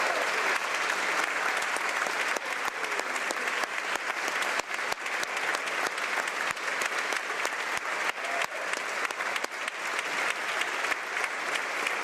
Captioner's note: applause